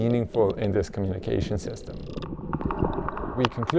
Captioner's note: whale clicking